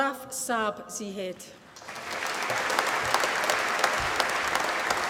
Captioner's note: applause